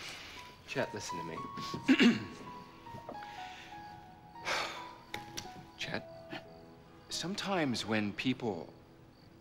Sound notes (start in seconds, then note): 5.4 <i> clears throat</i>; 7.3 <i> sighs</i>